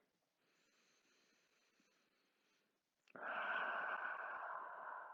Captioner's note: breathes deeply